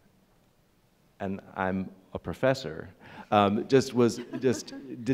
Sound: laughing

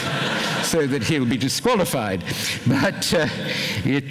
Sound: laughter

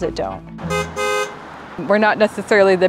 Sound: horns beep

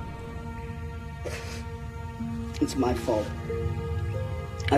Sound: sobbing

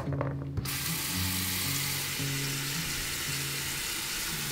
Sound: water running

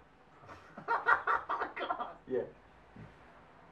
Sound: laughter

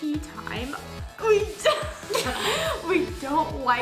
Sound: laughs

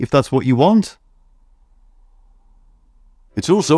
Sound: silence

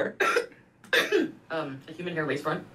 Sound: coughs

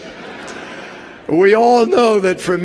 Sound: laughter

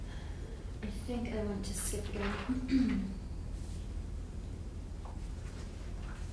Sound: clears her throat

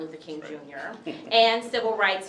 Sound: chuckles

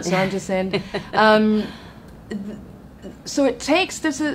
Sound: laughs

